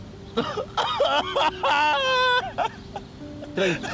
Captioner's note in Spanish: Ramón rompe en llanto